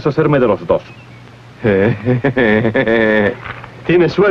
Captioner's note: laughing